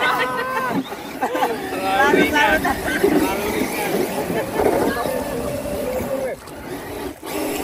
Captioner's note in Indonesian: Tertawa